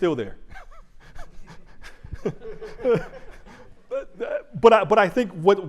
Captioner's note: chuckles